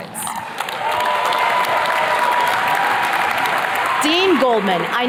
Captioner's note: attendees cheers and claps